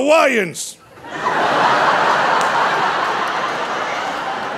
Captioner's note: audience laughing